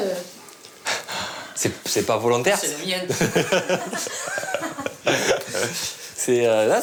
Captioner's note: laughs